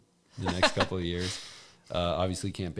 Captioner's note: laughs